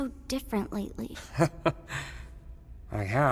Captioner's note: chuckles